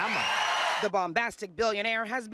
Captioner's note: cheers